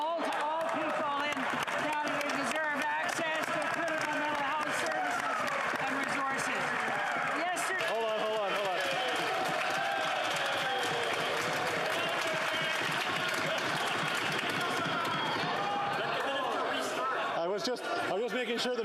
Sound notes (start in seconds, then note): 8.0 applause